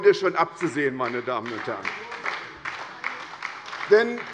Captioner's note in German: Beifall bei der SPD